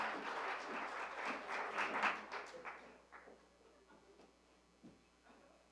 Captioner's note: applause